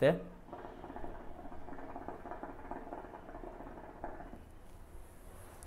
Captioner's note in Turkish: nargile sesi